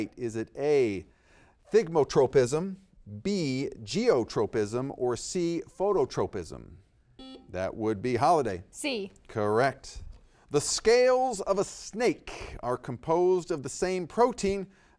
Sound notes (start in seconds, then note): 7.2 buzzer beeps